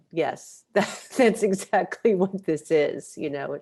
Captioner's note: laughs